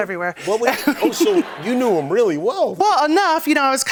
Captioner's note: laughter